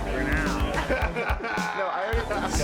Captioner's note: both laugh